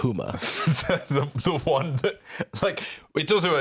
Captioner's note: laughing